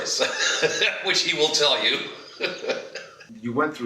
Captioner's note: laughs